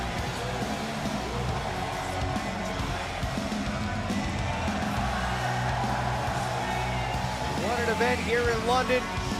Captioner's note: crowd cheering